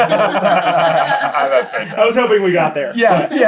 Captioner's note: laughter